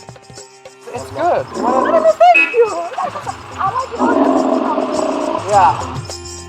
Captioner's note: laughs